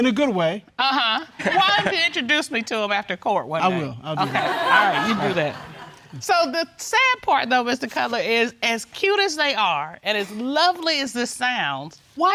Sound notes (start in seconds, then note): 4.2 audience laughs